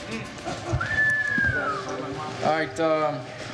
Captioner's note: whistling